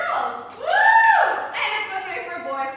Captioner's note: cheers